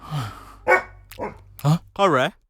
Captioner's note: dog barking